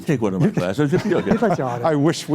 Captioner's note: laughter